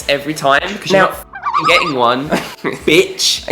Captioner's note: bouncy sound effect